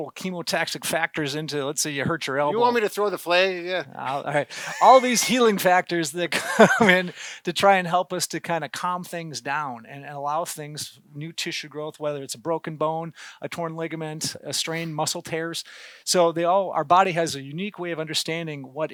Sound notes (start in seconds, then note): 4.2 laughter